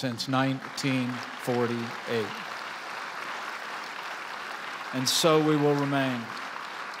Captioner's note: applause